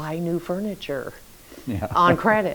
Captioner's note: chuckles